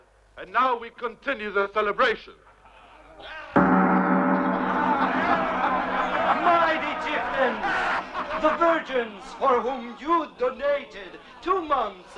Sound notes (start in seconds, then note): 3.5 gong rings; 5.9 all cheering and laughing